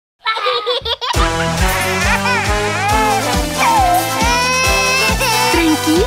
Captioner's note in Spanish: Risas y Llantos; Música Alegre